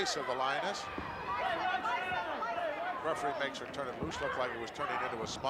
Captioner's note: applause